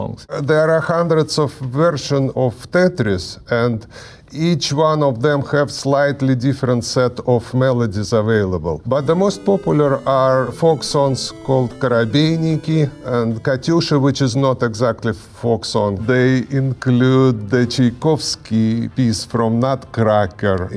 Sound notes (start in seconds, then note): 13.1 speaking in Russian